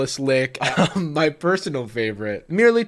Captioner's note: laughs